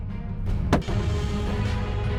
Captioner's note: gun shot